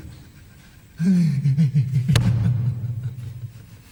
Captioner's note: man crying